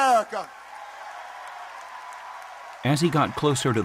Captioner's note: applause